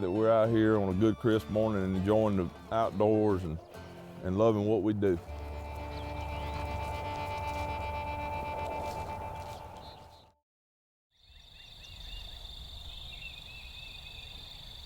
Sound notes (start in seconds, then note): 5.0 country music; 10.8 birds chirp